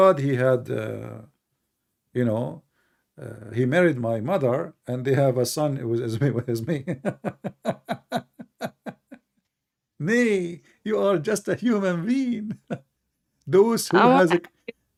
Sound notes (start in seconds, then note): 6.7 Ketawa